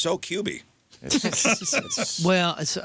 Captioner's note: laughing